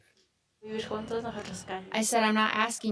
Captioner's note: speaking Spanish